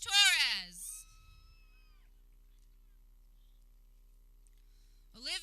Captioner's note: people cheering